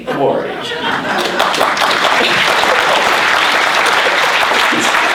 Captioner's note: applauding